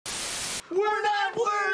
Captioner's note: static playing